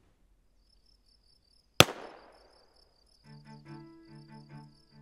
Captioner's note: crickets chirping; gunshot popping; suspenseful music